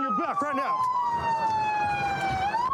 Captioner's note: sirens blaring